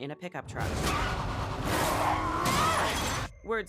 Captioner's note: tires screech